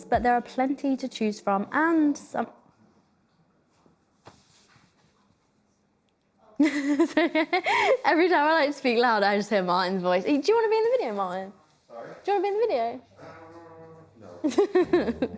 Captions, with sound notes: but there are plenty to choose from and some. (laughs) Every time I like to speak loud, I just hear Martin's voice. Do you wanna be in the video, Martin? - Sorry? - Do you want to be in the video? - Um, no.